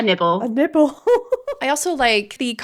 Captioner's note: laughing